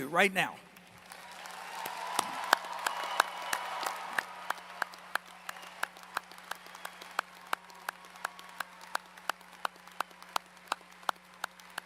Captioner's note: applause